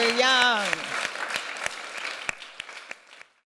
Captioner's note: applause